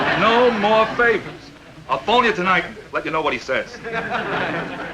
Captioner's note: audience laughing